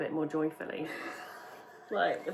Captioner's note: laughs